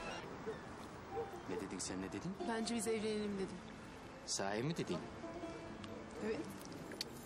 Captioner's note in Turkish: Televizyon sesi